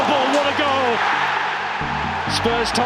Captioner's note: crowd erupts